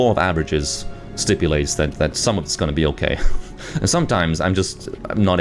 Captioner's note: chuckles